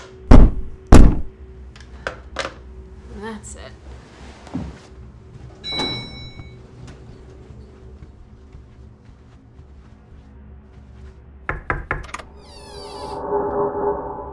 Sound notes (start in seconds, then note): 0.3 knock, knock; 5.6 elevator bell; 5.6 elevator doors open; 12.2 ominous music